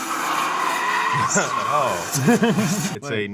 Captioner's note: tires squealing; engine roaring